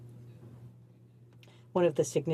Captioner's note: speaking French